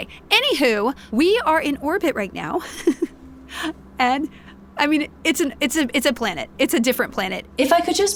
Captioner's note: laughs